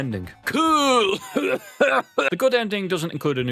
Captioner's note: coughing fit